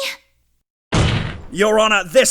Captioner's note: slam